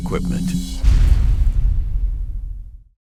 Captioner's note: booming sound effect